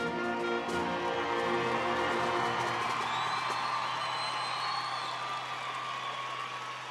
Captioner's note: audience applauding and cheering